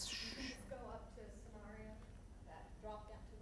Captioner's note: voiceover